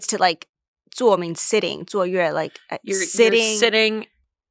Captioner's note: speaks foreign language